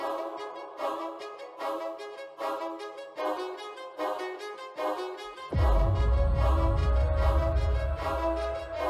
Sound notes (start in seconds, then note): 3.2 intriguing orchestral music continues; 5.6 echo booms